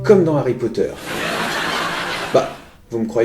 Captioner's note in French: Rire